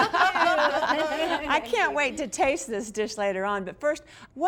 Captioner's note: laughs